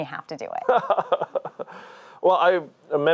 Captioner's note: laughing